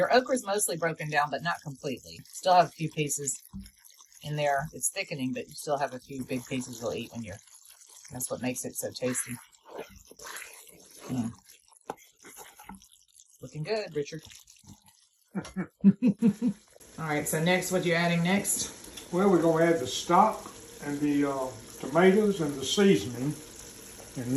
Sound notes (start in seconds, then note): 15.4 laughter